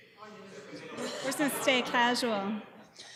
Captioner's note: laughter